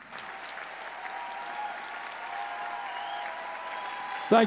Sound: audience cheering

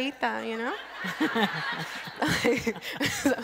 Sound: crowd laughs

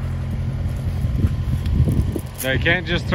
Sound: chain rattling

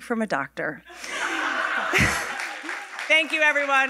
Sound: audience laughing and applauding

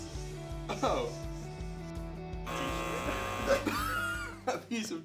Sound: buzzer blaring

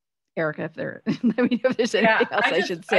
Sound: laughs

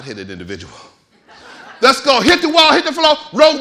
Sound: audience laughing

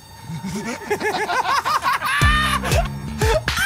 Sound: Jokers laughing

